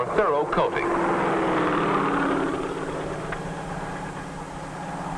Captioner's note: helicopter zooming